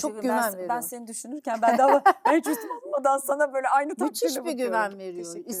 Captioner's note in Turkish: kahkaha